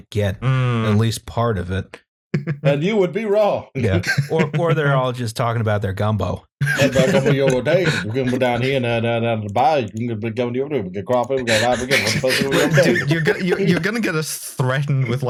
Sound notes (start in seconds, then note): 3.8 laughter; 7.3 Cajun gibberish; 11.4 laughter